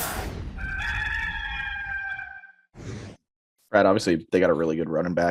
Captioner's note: robotic sound; rooster crowing